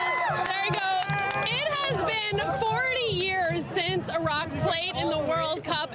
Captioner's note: applause